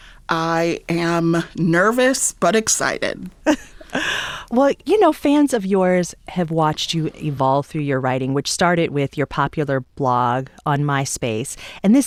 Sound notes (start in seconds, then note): 3.4 laughter